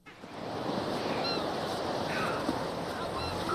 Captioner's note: birds tweeting